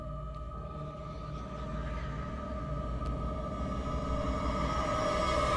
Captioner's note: foreboding music; voices whispering; foreboding music intensifies